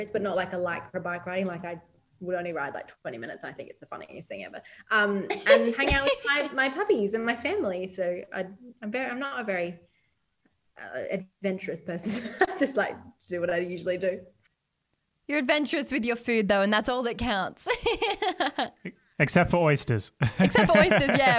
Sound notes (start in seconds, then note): 17.6 laughs